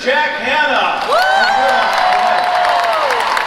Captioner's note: applause